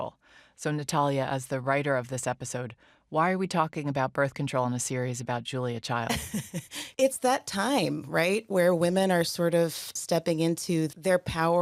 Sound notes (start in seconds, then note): 6.1 chuckles